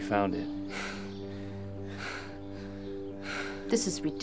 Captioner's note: men breathing heavily